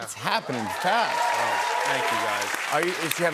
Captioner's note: cheers and applause